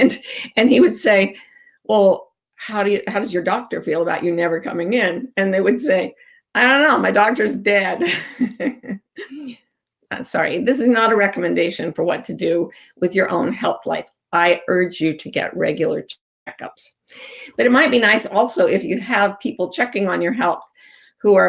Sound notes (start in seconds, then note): 8.0 chuckles